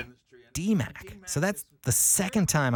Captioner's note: voiceover